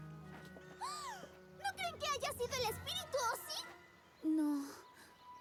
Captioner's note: gasp